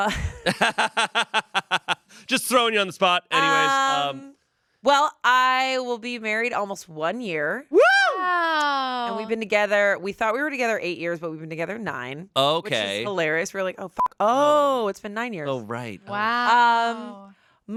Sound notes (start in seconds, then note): 0.1 laughs; 14.0 beep